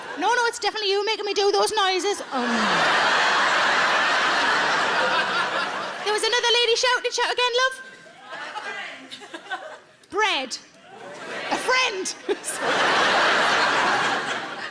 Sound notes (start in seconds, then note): 2.2 audience laughs; 10.7 crowd; 12.2 everyone laughs